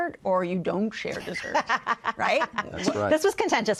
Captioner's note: laughs